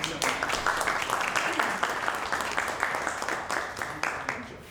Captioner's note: audience applauding